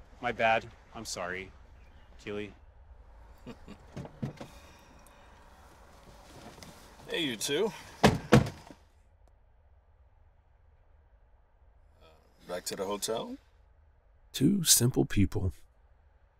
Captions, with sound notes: My bad. I'm sorry, Keely. (Adam chuckles) (car doors open) - Hey, you too. (car doors slam) Uh, back to the hotel? Two simple people,